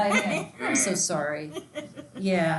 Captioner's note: student laughing